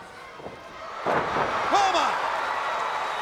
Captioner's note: canvas thudding